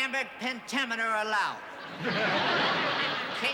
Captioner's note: laughter